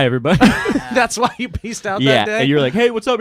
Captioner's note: laughing